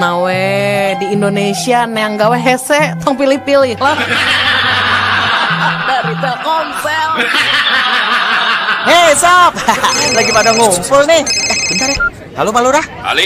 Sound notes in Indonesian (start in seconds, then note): 7.9 tertawa